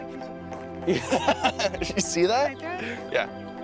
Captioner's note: laughs